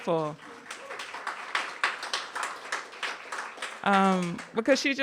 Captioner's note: audience applauding